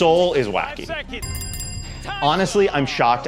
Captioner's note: bell ringing